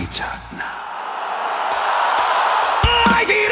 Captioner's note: crowd noise